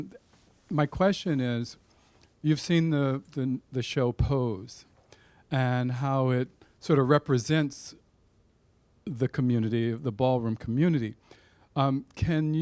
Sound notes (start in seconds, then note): 1.1 deep Voice